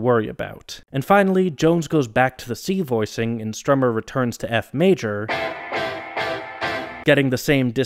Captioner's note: bang